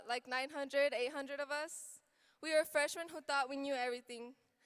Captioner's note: none